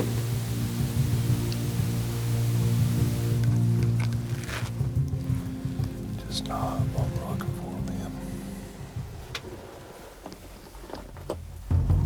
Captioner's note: whispering